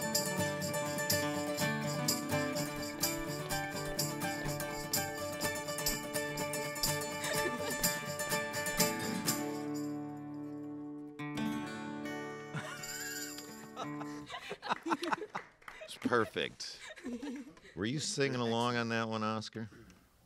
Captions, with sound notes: (musicians laugh) (audience applaud) Was perfect. Were you singing along on that one, Oskar?